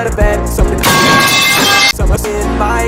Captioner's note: metal pipe crashes on his head